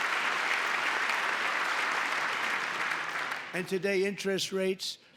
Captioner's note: applause